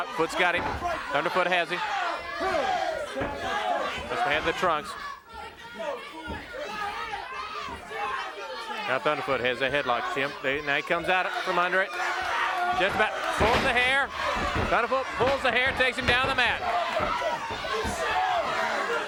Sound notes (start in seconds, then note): 3.2 crowd clamoring; 12.6 body thudding